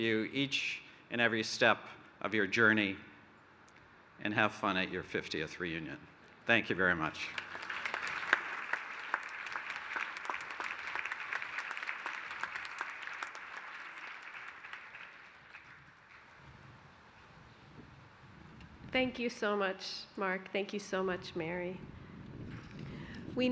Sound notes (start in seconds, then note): 7.0 applause